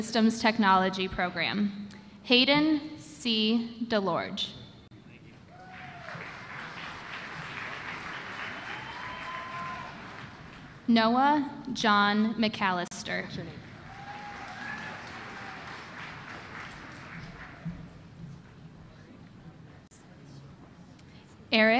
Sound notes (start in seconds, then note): 5.6 applause